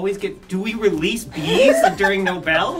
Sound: laughs

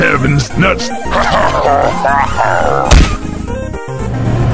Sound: rolls on floor laughing; random vehicle driving

